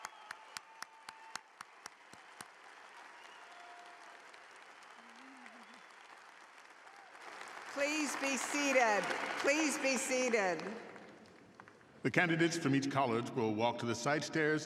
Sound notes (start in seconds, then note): 0.0 applause